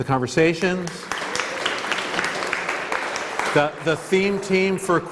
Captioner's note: applause